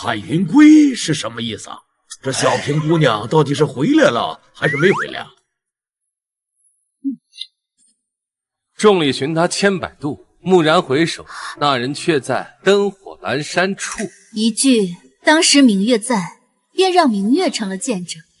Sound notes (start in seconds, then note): 8.7 reciting poetry